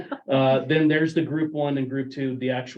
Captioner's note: speakers laughing